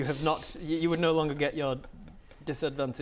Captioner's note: laughs in dread